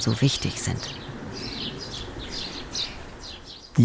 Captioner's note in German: Vogelgezwitscher